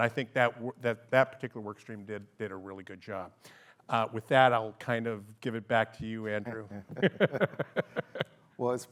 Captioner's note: laughs